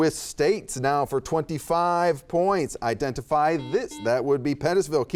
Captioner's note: buzzer beeps